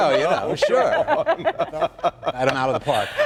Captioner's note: laughter